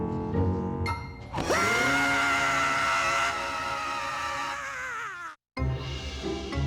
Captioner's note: daxter screams again